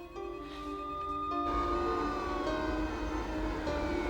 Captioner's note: sirens wailing